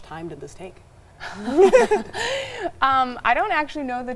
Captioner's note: laugh